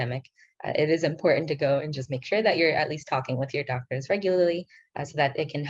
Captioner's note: speaking in foreign language